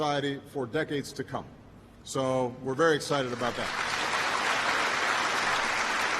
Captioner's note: applause